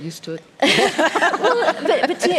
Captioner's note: laughs